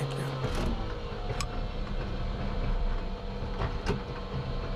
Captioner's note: plane engine roaring